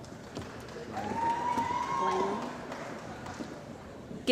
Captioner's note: cheering & Applause